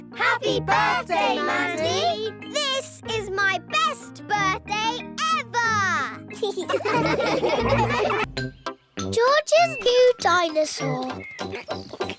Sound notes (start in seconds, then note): 6.4 laughing